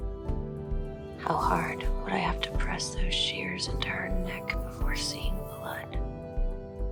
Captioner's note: voiceover